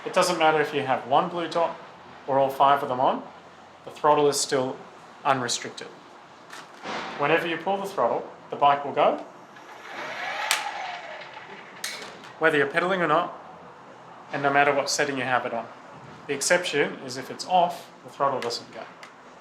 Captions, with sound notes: It doesn't matter if you have one blue dot, or all five of them on, the throttle is still unrestricted. Whenever you pull the throttle, the bike will go, (throttle sound) Whether you're peddling or not, and no matter what setting your have it on. The exception, is if it's off, the throttle doesn't go.